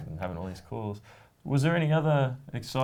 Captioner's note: laughs